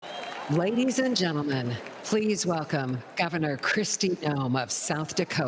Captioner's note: cheers and applause